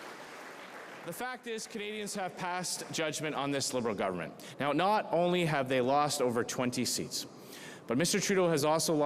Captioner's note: cheering and Applause